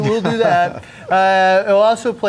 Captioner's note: laughing